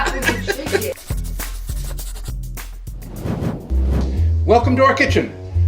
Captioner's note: pencil scribbling